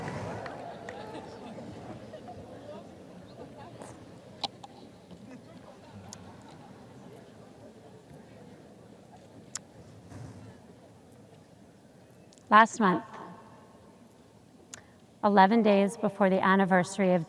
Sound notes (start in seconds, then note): 0.0 audience laughs